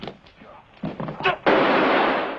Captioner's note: gun firing